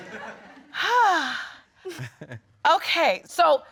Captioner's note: sighing